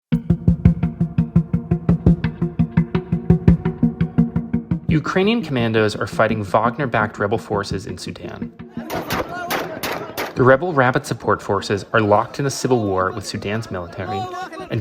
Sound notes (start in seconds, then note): 0.1 dramatic music; 8.9 gunshots firing